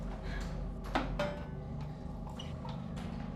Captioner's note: metal clangs